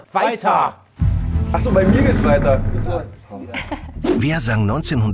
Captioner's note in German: Gemurmel, belustigte Laute